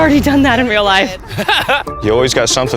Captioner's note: laughs